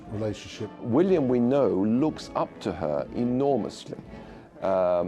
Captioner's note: voiceover